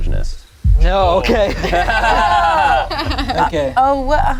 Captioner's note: group laughs